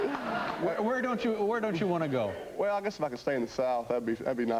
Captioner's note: laughter